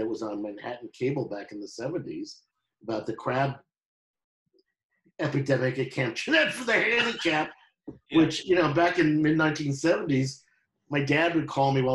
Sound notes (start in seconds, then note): 6.4 laughing